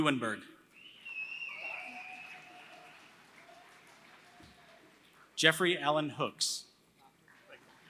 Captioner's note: applause; applause